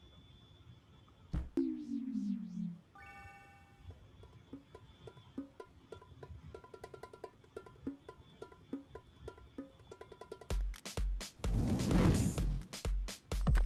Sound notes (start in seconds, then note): 2.9 chime; 5.3 drumming; 10.5 beat drops